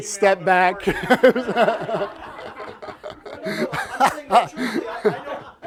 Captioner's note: laughter